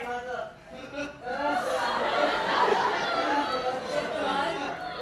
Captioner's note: familial sobbing